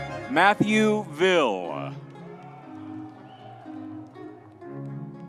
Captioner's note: crowd cheering